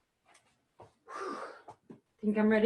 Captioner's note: huffing